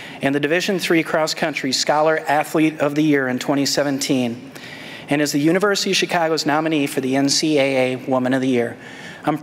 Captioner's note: none